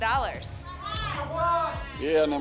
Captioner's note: audience shouting numbers